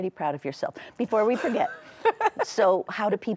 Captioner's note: laughs